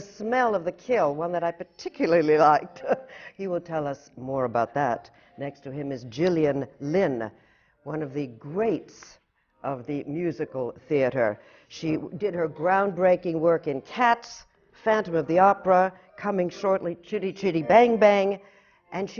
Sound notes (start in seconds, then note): 2.9 laughs